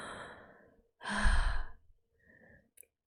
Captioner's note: sighs